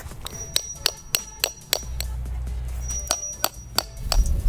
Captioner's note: metallic banging